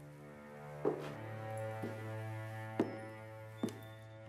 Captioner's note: shoes tapping